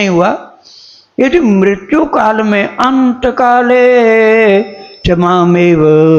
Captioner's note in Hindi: नाक से की जाने वाली आवाज़